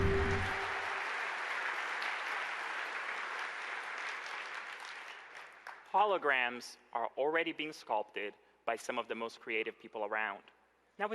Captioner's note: applause